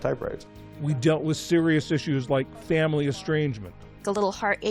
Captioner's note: voice-over